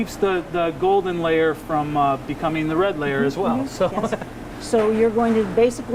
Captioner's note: laughs